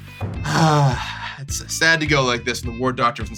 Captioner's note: sighs